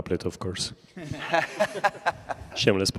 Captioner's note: laughter